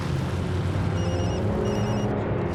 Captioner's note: phone rings